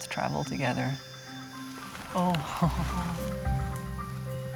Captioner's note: chuckles